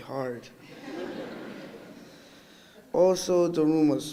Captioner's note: audience laughing